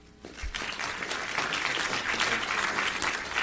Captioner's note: applause